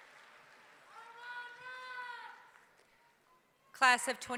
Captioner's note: yelling